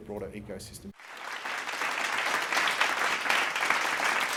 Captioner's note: clapping